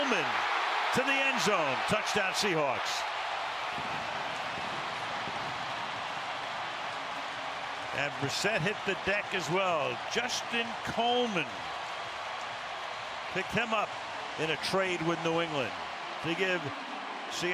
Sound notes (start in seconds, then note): 3.9 crowd cheering